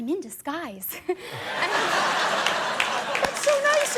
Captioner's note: audience laughing; audience applauding